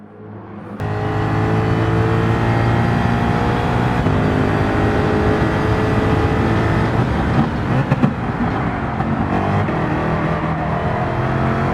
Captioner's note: engines revving, cars noises